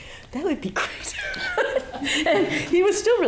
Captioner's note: laughing